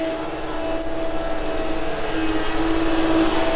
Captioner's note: machine noise